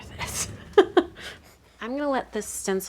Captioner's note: laughing